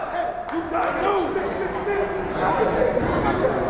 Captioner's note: yelling